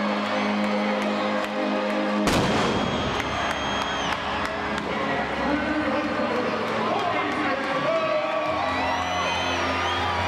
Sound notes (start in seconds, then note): 3.4 door slamming; 4.2 crowd chattering